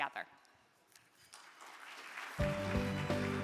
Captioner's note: crowd clapping; energetic music